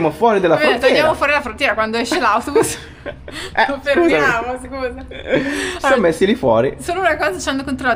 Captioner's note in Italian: risate